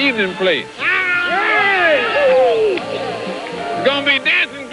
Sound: cheering

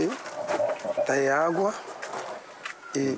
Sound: Portuguese spoken audio

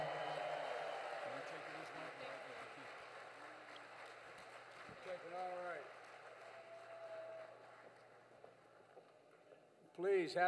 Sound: applause

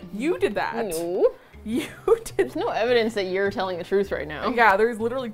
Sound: laughs

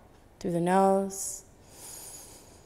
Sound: inhaling

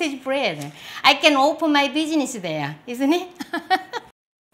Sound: laughs

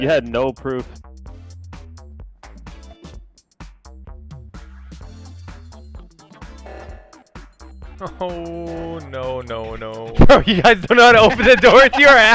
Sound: laughing

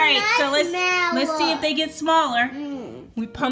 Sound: voiceover

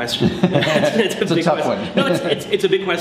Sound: laughter

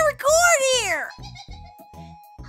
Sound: giggles

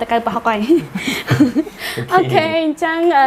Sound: laughing

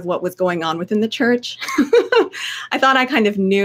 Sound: laughing

